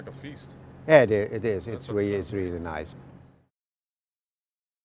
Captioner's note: chef speaking